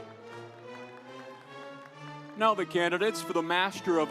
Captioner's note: audience applauds